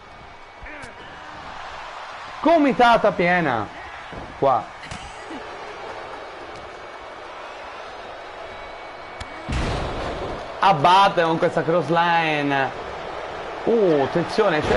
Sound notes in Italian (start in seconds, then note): 5.2 Applauso